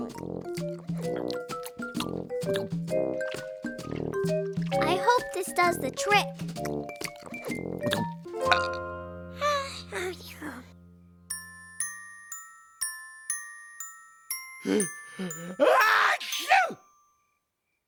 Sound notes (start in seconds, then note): 6.2 munching; 6.6 burping; 9.3 sighs of satisfaction; 15.6 loud sneeze